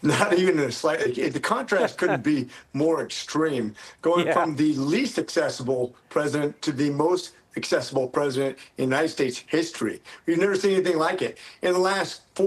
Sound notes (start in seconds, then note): 4.2 laughter